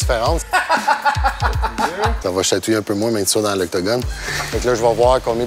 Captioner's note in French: rire